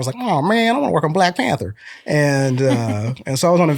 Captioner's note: laughter